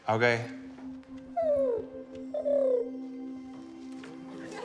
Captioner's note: chitters